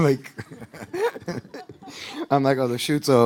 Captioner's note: laughing